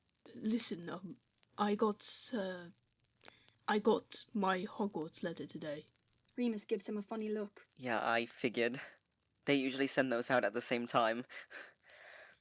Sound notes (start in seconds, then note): 10.6 he laughs a little